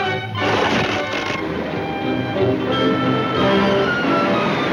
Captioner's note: dam crumbling